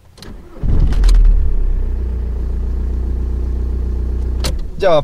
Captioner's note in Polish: Dźwięk silnika